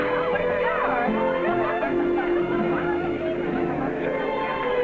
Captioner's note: gentle music; villagers chattering